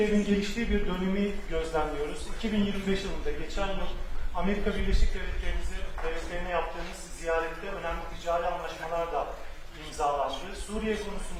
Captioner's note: speaking Turkish